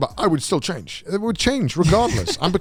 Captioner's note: laughs